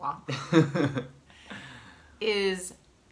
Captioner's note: laughs